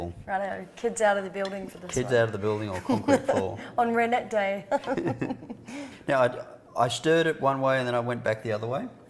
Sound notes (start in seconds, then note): 4.7 laughing